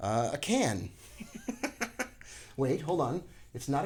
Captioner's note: chuckles